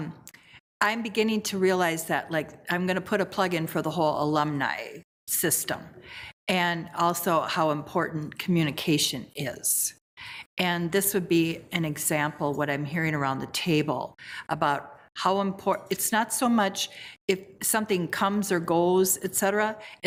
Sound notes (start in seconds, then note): none